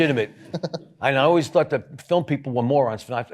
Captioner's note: audience chuckling